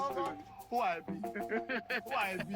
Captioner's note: laughing